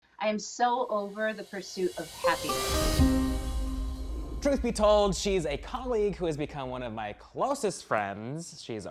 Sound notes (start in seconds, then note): 1.4 air whooshes; 3.2 gentle music